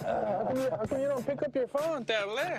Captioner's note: laughs